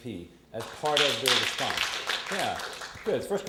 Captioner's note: audience applause